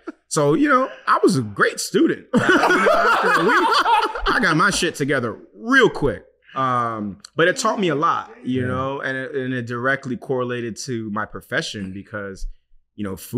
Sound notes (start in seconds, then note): 2.3 laughing